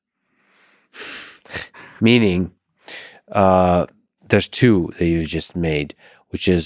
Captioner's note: chuckles